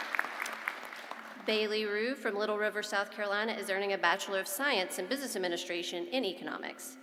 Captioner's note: applause